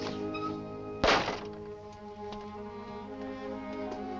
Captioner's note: door slams shut